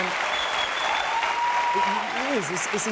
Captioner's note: cheers and applause